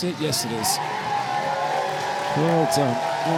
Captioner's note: applause